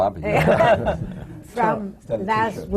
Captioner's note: laughter